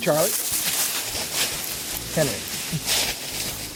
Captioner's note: leaves rustling